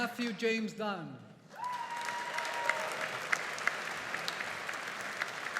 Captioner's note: audience applauding